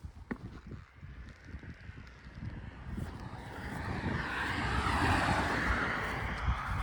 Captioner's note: traffic noise